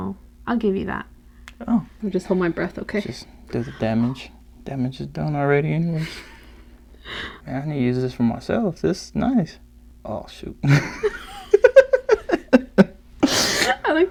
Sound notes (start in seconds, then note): 6.9 deep breath; 10.6 laugh